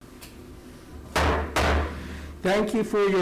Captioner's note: gavel slamming